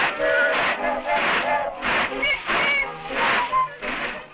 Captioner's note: whistles blowing